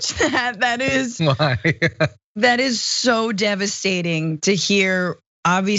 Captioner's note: laugh